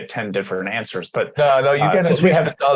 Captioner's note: laughter